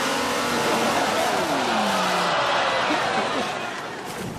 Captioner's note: quiet audience laughter